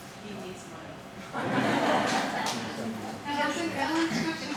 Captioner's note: audience laughing